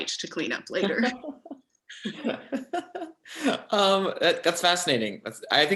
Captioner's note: both laugh